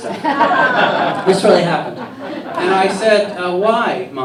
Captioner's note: laughter